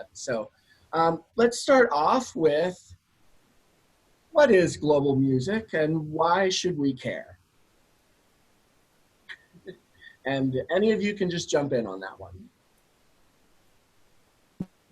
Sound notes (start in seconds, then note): 9.3 laugh